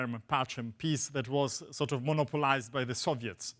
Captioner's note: speaks foreign language